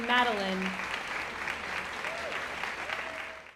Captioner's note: audience applauding; audience cheering